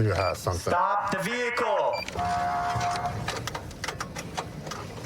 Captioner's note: horn blaring